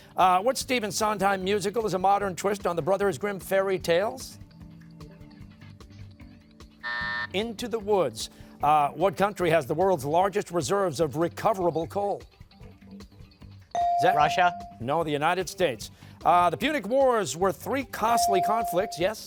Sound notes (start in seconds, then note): 6.8 buzzer